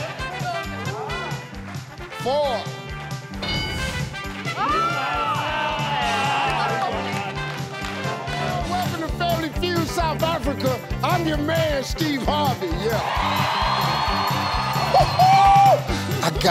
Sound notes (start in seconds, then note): 4.5 cheering; 6.4 clapping; 12.4 audience cheering